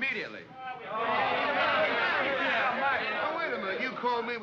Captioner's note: men grumble